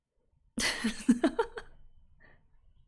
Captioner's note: laughs